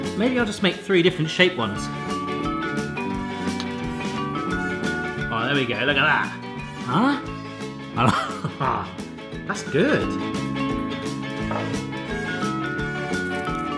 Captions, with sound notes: Maybe I'll just make three different shape ones. (upbeat music) All right, there we go, look at that! Huh. (laughs) That's good.